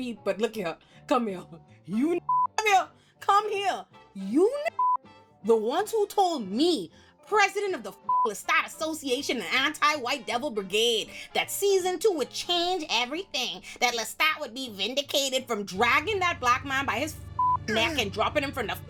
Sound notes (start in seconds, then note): 2.2 beep; 4.7 beep; 8.1 beep; 17.4 beep